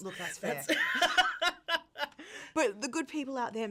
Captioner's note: laughing